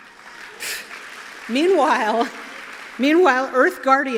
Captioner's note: applause